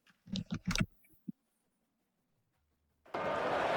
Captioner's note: keyboard clicking; crowd cheering